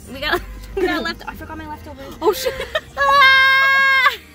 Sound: screams

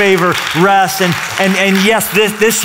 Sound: applause

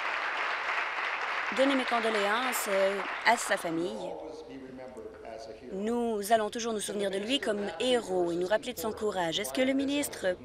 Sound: applause

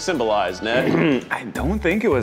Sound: calm jazz music; clears his throat

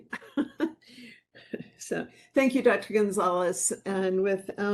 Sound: laughing

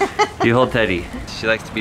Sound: laughing

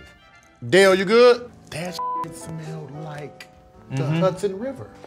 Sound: beep

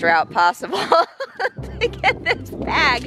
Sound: laughs

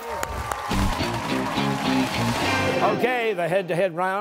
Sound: cheers and applause

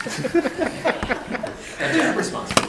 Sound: attendees laughing

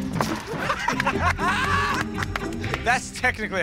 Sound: laughing

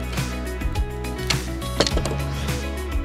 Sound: shovel clunking; exhales deeply

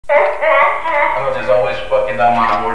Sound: audible Demonic Brat Laughter

